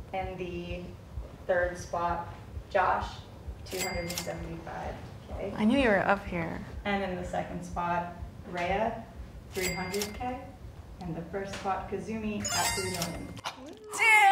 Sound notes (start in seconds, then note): 9.5 money Cha-Ching; 12.4 exciting Cha-Ching